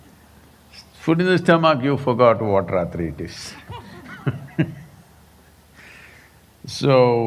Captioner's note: laughs